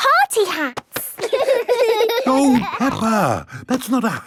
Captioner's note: laughing